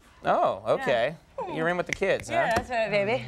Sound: Conan snapping fingers

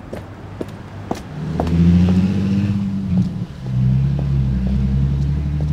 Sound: car engine revving

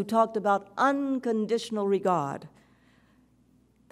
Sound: none

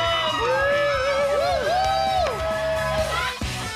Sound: cheering

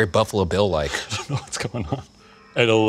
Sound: laughing

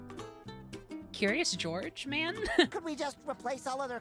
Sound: laugh

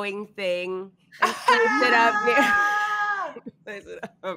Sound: all cheering

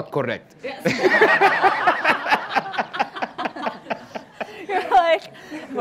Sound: laughter

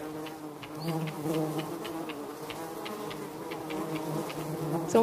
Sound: mosquito whines

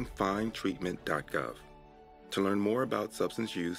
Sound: voiceover

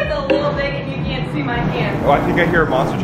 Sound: truck engine reves

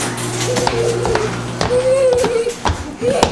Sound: babbling

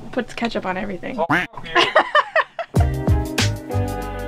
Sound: quacking; laughing; upbeat music

